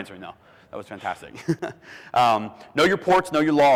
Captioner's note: giggles